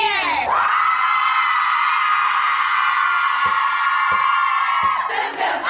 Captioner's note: group cheering